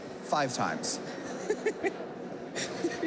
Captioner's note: laughing